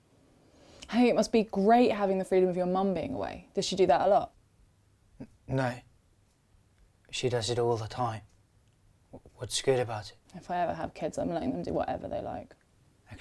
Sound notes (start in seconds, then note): none